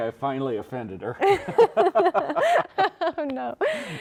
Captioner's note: both laughing